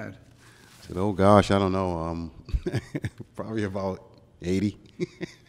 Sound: chuckles

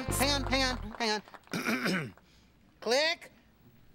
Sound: clears throat

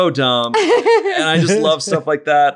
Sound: laughing

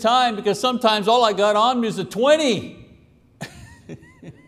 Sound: laughs

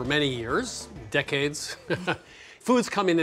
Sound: chuckles

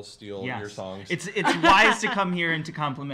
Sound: laughs

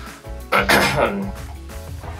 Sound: clears throat

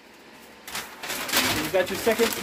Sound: paper crinkling

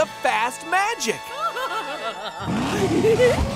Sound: laughing

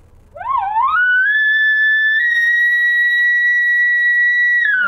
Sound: elk call sounds

